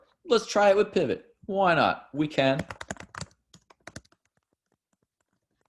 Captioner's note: typing